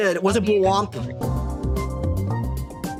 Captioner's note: none